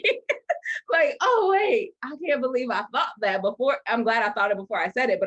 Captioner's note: laughs